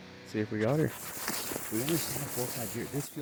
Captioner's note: feet treading